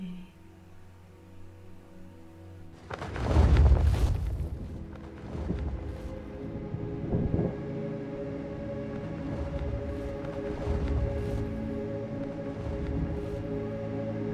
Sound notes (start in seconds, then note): 3.6 feathers flap; 11.1 suspenseful music